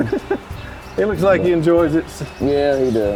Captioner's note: chuckles